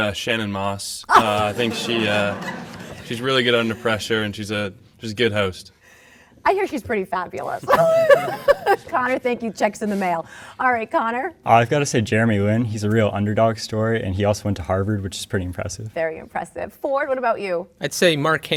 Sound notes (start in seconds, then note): 7.6 laughs